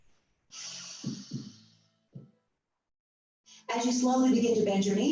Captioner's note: exhaling slowly